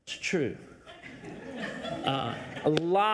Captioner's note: audience laughs